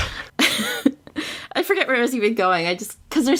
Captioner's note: laughs